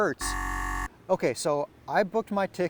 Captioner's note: buzzer buzzes